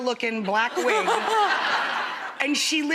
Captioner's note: laughs